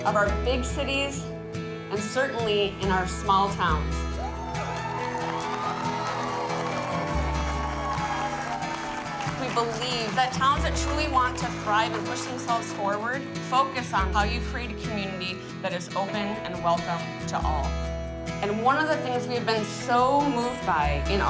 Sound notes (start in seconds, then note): 4.5 clapping and cheering